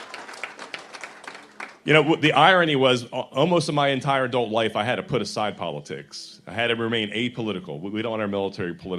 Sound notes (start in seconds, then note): 0.0 applause